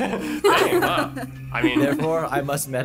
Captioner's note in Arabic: يضحك درامي